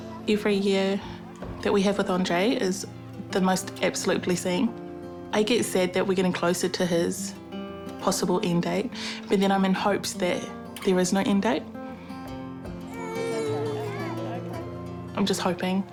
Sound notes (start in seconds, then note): 12.9 grizzles